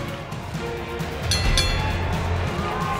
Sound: bell rings

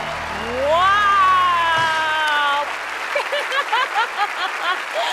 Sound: laughs

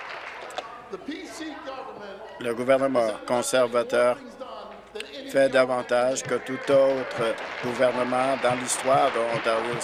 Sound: applause; continued applause

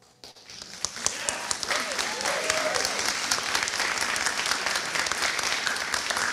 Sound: applause

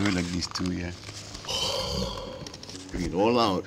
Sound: breathing into the drum

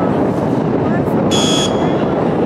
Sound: buzzer strikes again

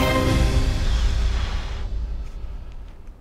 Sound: man exhales

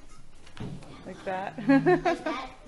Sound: laughter

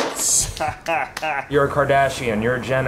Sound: laughing

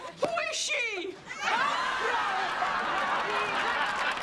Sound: laughter

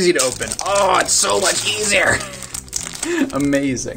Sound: laughs

